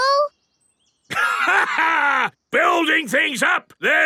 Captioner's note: laughs